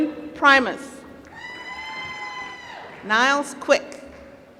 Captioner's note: applause